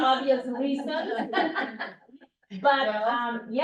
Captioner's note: laughs